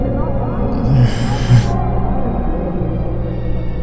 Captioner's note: groans